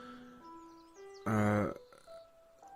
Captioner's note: uhm